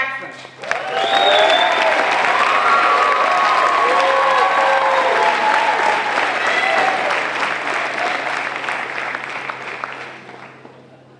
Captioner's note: applause